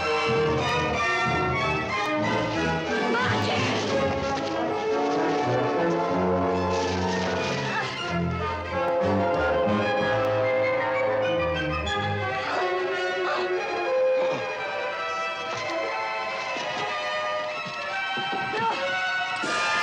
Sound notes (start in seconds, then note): 13.1 gasping